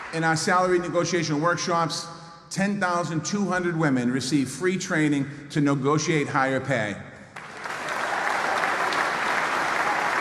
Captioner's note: applause